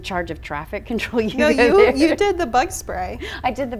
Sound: laughs

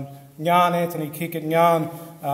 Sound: speaks foreign language

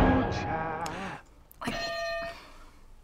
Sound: gasps; hitting bell

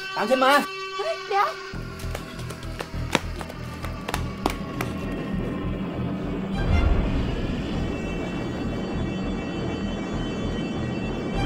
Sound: the siren screaming

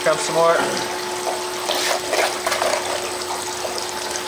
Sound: water running

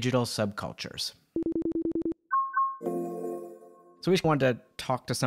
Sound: beeping

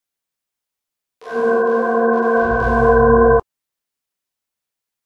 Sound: chilling sound

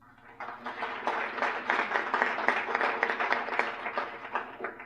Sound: applause

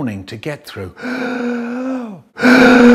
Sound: breathes

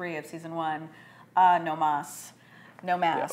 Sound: speaks foreign language

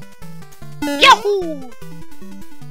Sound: Mario jump sound effect

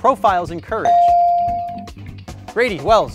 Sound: bell dings

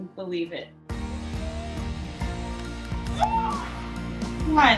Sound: gasps and squeals

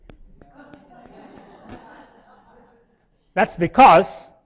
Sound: laughing

